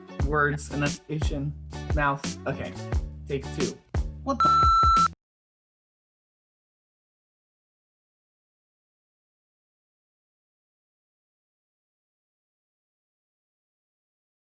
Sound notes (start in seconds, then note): 4.4 beep